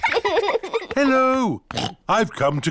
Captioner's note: oinks